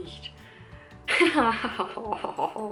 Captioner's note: laughing retarded